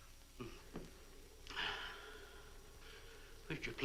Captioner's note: Marlowe sighs